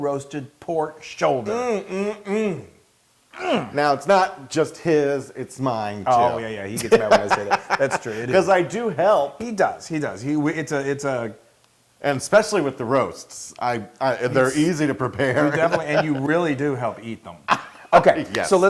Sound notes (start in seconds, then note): 6.7 laugh; 15.0 laugh